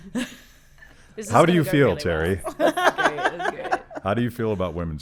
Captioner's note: laughing